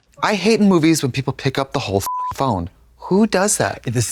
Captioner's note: beep